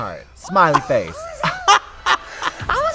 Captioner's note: Trixie laughs